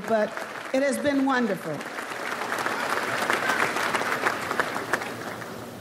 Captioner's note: audience applauds